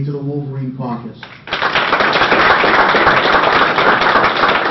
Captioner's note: applause